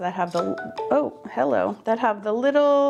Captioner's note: phone dings